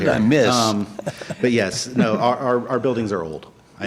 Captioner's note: laughter